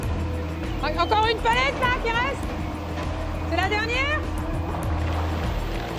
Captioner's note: speaking in foreign language; shouting in foreign language